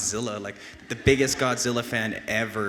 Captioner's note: audience laughs